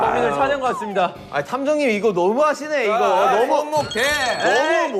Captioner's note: frustrated